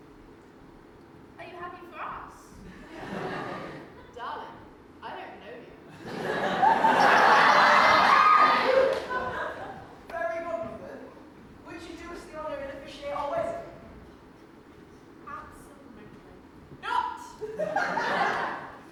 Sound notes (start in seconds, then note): 2.6 audience laughs; 5.9 audience laughs; 6.3 sassy finger snap; 17.4 audience laughs